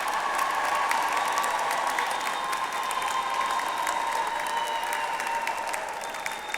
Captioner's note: audience applauds continues